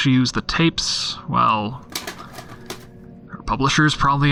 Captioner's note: clattering of cassettes, his hand running over them